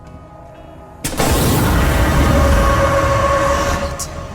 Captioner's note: fire whooshes